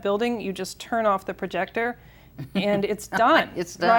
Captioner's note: chuckles